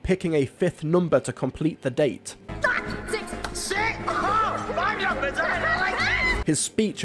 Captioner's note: squeals